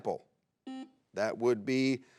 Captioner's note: buzzer beeps